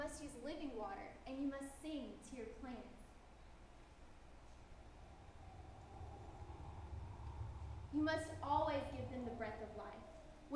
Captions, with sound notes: You must use living water and you must sing to your plants. (wind blows) You must always give them the breath of life.